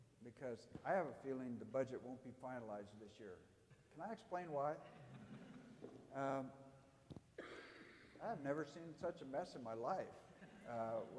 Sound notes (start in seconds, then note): 4.8 audience laughing